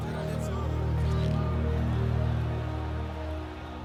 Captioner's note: crowd jeering